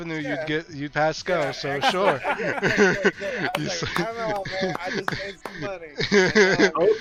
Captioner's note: Laughter & Malak Claps